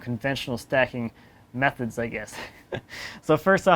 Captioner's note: laughs